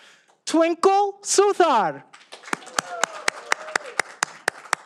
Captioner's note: all applauding